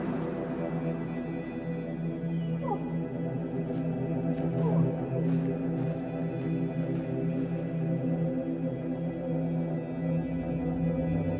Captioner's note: wolf howling